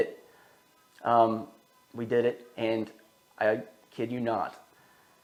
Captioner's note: machine humming